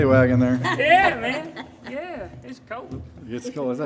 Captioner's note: laughing